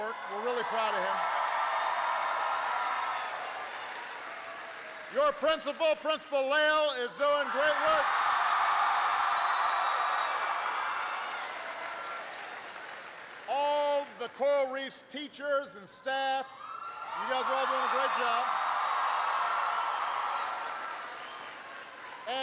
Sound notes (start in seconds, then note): 7.0 applause; 12.3 applause; 22.2 applause